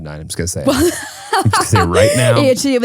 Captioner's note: laughing